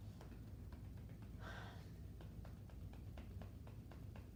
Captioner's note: gentle tapping